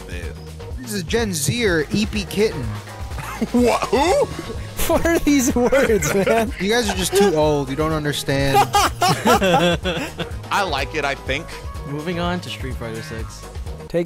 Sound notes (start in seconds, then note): 8.3 laughing